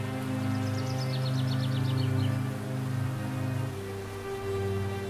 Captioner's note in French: bruit de rivière